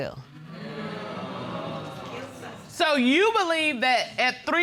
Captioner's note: audience clamoring